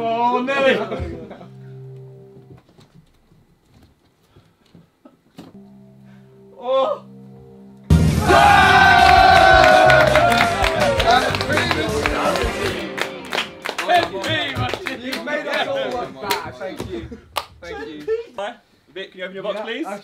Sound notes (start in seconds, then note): 1.1 tense music; 7.9 upbeat music; 8.0 all cheering and clapping